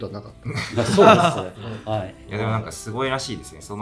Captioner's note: laughs